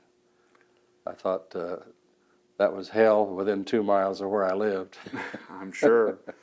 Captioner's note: laughs